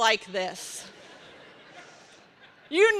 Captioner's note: laughter